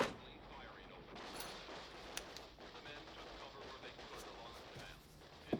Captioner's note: television playing vietnam news report